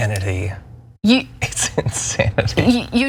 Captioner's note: laugh